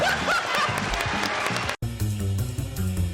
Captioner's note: laughter